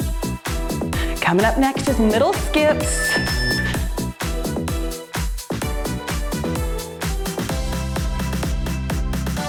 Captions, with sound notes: Coming up next is middle skips. (timer beeps) (cheerful music)